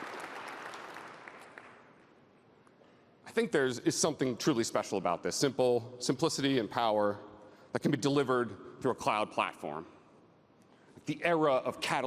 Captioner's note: applause